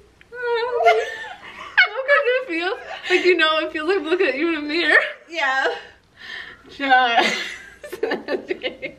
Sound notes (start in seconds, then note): 7.2 laughing